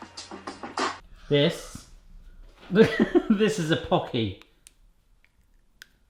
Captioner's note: laughs